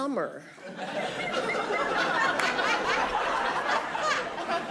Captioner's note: audience laughing